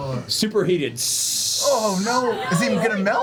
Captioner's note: sizzling noise